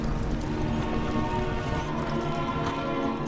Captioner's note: hooves pounding